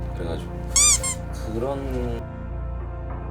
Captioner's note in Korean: 킁킁